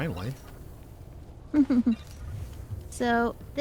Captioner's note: giggles